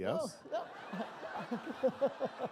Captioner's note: laughter